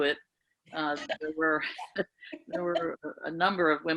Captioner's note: laughing